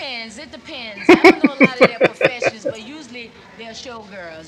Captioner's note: laughing